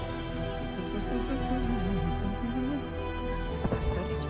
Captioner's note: hums to himself